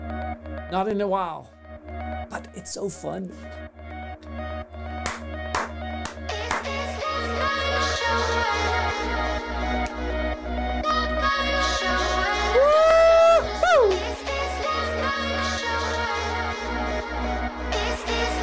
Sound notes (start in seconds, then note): 0.2 background upbeat music; 3.5 background upbeat music; 3.5 clapping; 14.4 background upbeat music